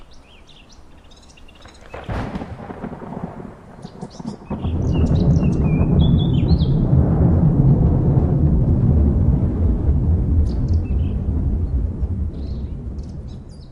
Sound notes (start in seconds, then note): 0.0 birds chirping; 2.5 explosion rumbling